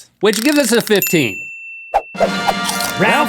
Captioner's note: bell rings